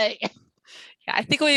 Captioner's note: laughs